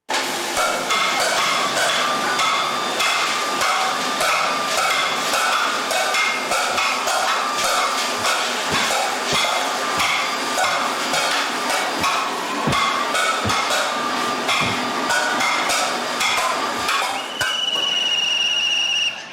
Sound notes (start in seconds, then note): 0.2 pots clang, power tools whirr loudly; 8.6 floor thumps; 10.7 clanging, whirring continues; 16.8 blows whistle